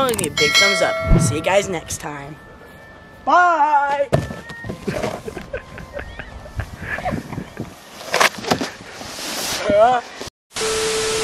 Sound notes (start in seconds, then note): 4.9 laughing